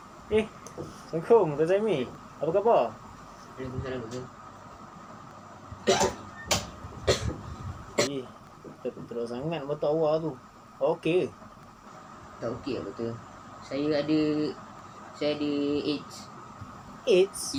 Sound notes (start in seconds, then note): 5.8 coughs